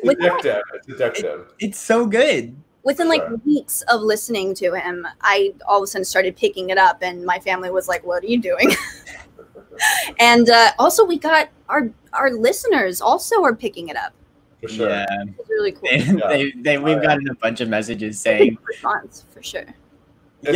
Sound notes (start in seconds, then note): 8.6 laughs